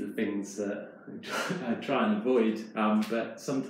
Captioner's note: chuckles